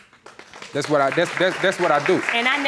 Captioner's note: applauding